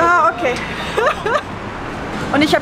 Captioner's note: nervous laughter